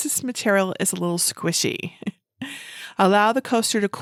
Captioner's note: chuckles